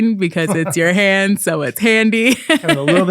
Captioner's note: laughing